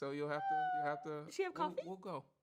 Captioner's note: whimpers